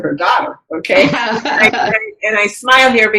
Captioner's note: laughs